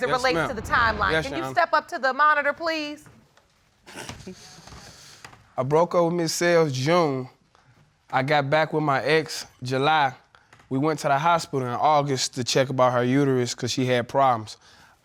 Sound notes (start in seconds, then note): 4.1 snickers